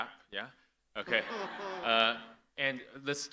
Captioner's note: audience laughing